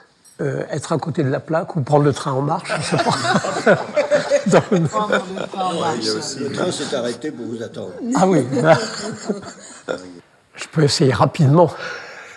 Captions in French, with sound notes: c'est « être à côté de la plaque » ou « prendre le train en marche » ! [rires] Non, le train s'est arrêté pour vous attendre ! Je peux essayer rapidement